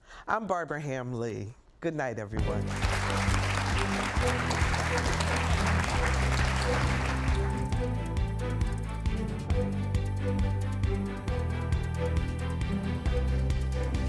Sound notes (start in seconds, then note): 2.4 audience claps; 8.8 upbeat music